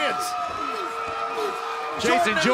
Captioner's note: crowd cheering